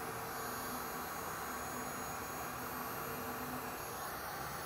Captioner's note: heat gun whirring